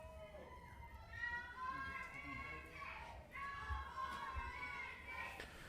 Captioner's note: cheering; protestors interjecting